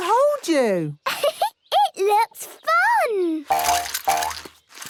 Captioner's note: giggles